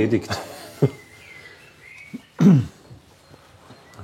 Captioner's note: smile, clears throat